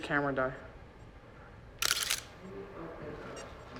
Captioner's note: shutter clicks